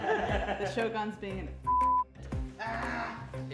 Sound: all laugh; beep; male Voice

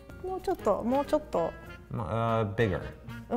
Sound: speaks in foreign language

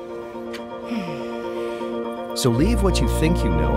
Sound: intriguing music; Julia sighing

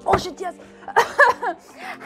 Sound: coughs

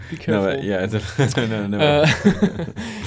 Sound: laughs

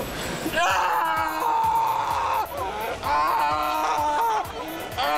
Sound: audience exclaims

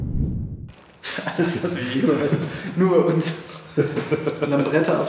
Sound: laughs

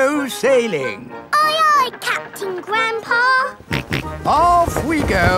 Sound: snorts

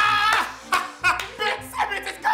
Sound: person clapping

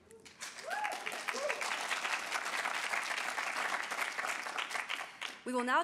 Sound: audience applauds

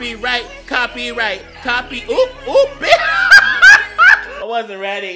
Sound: laughing

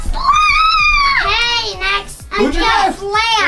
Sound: growls

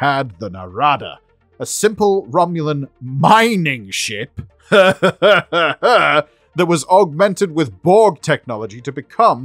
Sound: more Maniacal Laughing

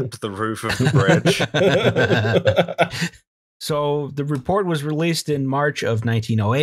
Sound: laughter

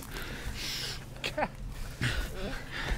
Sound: cries

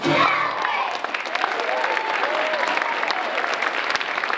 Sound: applause

